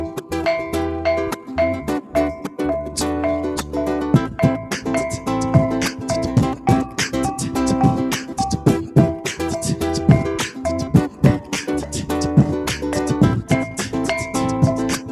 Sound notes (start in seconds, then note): 3.2 beatboxing